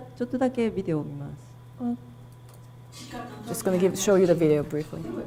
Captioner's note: speaking foreign language